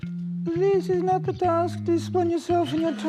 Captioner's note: tiny voice